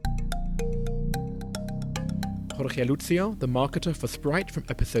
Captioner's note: voiceover